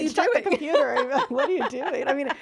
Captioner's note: laughing